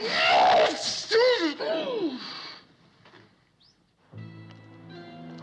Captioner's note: violent Sneeze